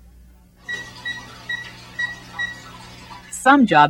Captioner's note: dialing phone